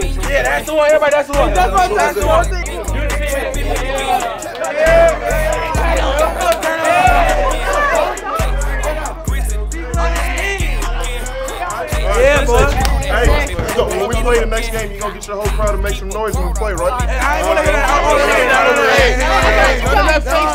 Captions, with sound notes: yeah that's the one, everybody, that's the one. (cheering) Yeah boy! - Hey yo, when we go to the next game, you gonna get your whole crowd to make some noise when we play, right? - Yeah. - Yeah, yeah.